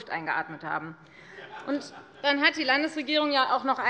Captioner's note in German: Heiterkeit bei der FDP